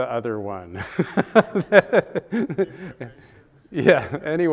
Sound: laughs

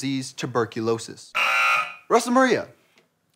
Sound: buzzer

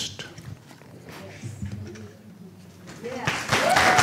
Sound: applause

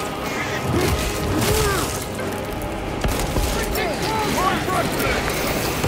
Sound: alien sloshing; marine grunting; dramatic music; marines chattering

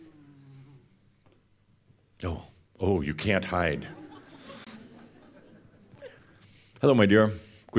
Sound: a few chuckles

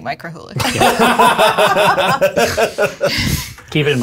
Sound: all laugh

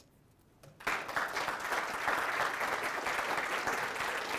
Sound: audience applauds

